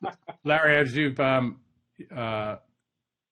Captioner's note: laughter